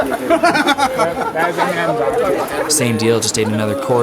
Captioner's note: laughing